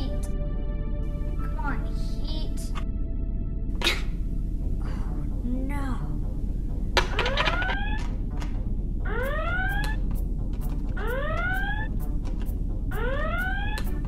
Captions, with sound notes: - Heat. C'mon, heat. Oh no! (alarm sounding) (dramatic music)